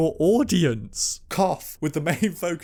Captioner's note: dramatic cough again, i clearly have a dramatic cold